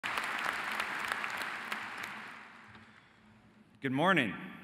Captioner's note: audience applauding